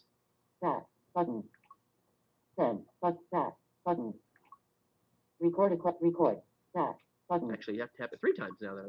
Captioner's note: Siri talking